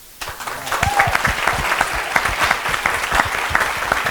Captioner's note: applause